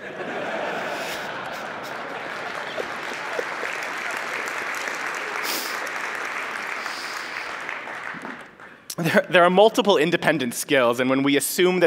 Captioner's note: laughter